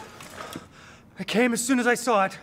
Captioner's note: screech!; out of breath